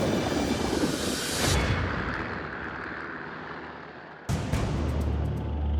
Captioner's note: helicopter blades whir; intense music